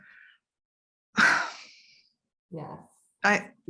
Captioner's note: sighs